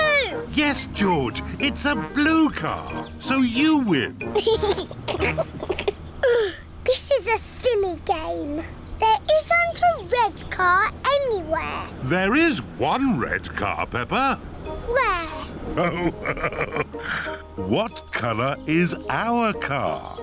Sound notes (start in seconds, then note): 4.3 laughs; 6.0 groans; 15.7 laughs